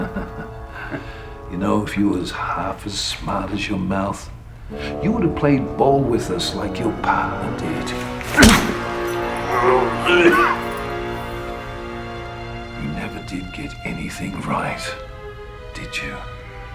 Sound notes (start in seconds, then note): 0.0 laughing; 7.5 smacking; 9.4 grunting